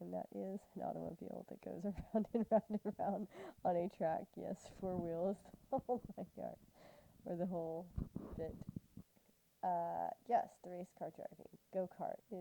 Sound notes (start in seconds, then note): 7.2 laughter